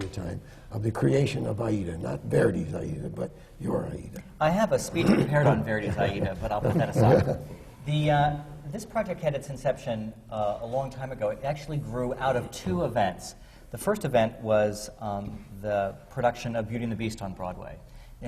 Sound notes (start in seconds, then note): 5.0 laughs